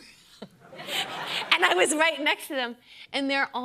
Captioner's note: laughter